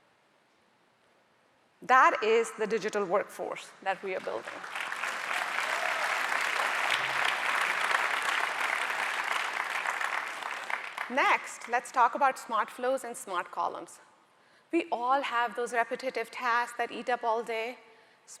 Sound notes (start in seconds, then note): 4.2 audience applauding